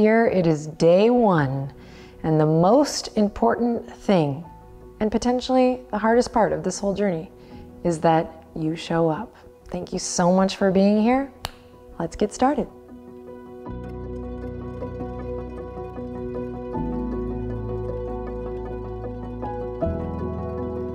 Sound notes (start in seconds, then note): 11.4 snaps; 13.8 light music